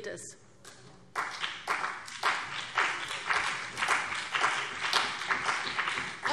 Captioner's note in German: Beifall BÜNDNIS 90/DIE GRÜNEN und vereinzelt CDU